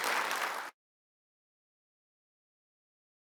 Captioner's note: applause